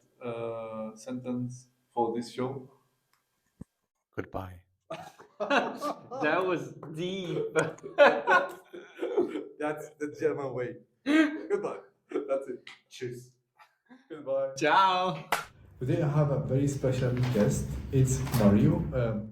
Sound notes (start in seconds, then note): 4.9 laugh